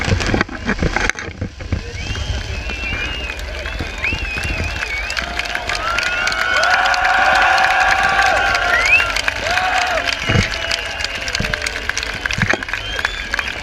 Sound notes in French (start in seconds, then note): 1.9 Applaudissements